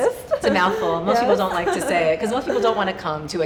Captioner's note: laughing